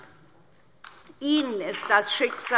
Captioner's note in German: Beifall DIE LINKE